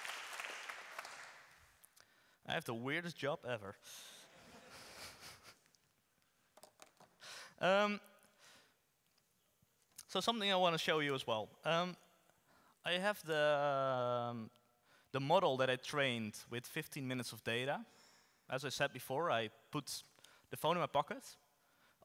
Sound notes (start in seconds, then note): 4.3 audience laughs